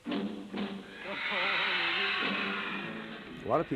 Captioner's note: cheers and applause